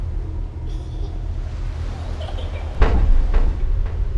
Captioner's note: laughing